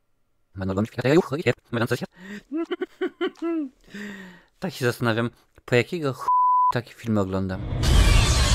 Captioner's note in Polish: śmiech